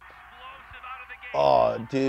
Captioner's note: male commentator voiceover